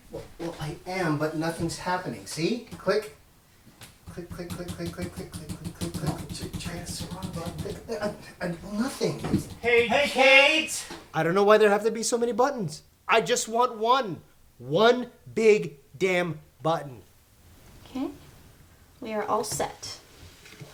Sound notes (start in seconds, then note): 8.3 sputtering; 8.9 Brett & Chester calling out